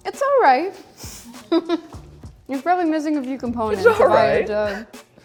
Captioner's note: laughs